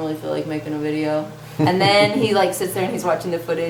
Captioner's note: laughs